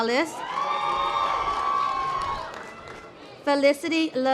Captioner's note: audience applause